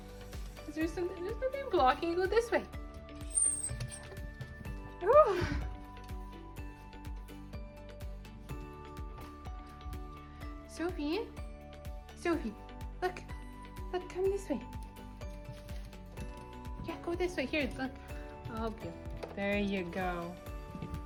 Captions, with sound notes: Is there something... there's nothing blocking, go this way. *Sophie quietly whines* Oh. Sophie, Sophie, look. Look, come this way. Yeah, go this way. Here, look, I'll help you. There you go.